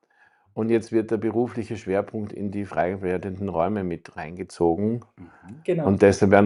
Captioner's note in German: räuspern